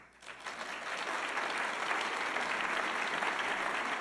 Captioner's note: audience applauding